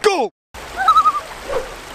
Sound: loon call

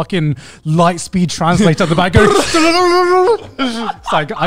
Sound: makes computer sound

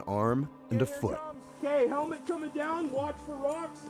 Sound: voiceover

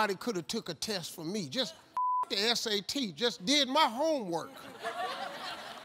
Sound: beep; audience laughs

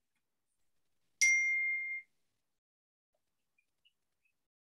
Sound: ding sound

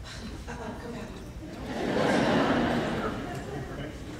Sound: laughing

